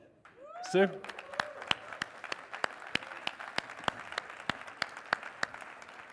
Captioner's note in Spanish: aplausos